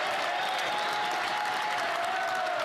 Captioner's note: applause